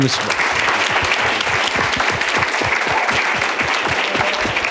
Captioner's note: applause